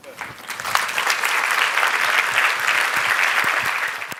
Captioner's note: applause